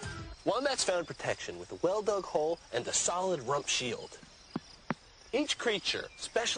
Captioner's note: thumps